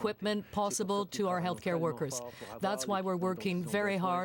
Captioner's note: speaking french